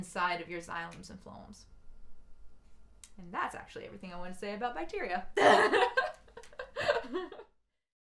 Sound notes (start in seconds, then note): 5.4 laugh